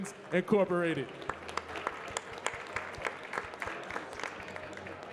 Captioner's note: audience clapping